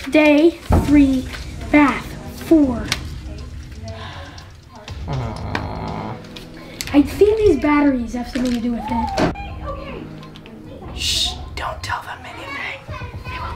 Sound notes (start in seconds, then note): 9.5 girls' excited banter